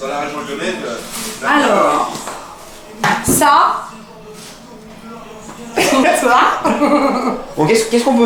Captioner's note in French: rires